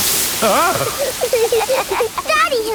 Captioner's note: laughing